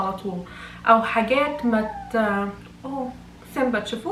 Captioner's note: Simba meowing